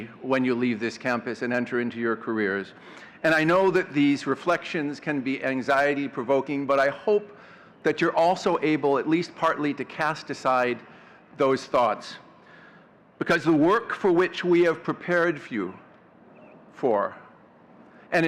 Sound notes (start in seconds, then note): none